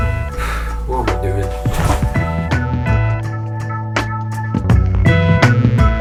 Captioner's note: sighs